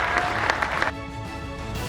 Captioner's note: applause